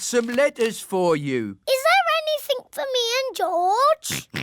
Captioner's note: oinks